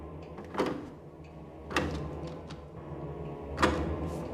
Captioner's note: gagang pintu berderak